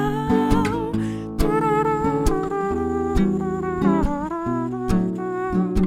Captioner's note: mouth blows shallowly